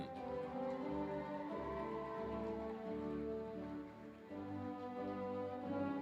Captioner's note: applause, cheering